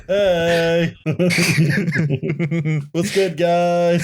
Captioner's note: laughter